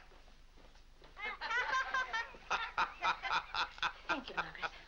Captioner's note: laughing; boys and Mr. Day laughing